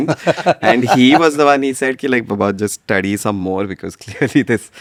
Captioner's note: laughs